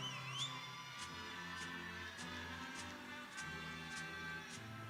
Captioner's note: people cheering